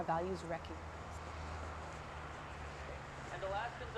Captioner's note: wind whipping